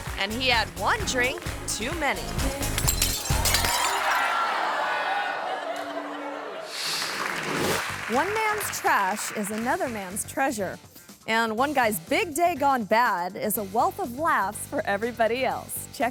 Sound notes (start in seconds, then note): 2.3 glass shattering; 4.0 audience screaming; 4.0 audience laughing; 6.8 audience clapping